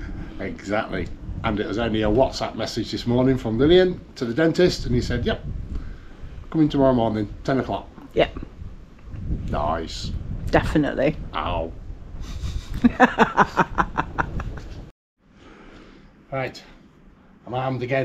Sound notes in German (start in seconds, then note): 12.2 Gelächter